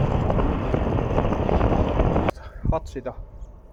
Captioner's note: strong wind